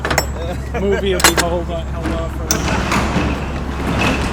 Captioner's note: door slides open